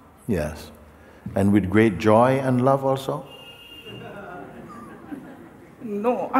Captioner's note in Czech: smích